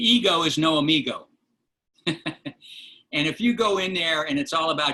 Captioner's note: laughter